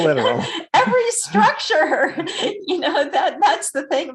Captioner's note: laughs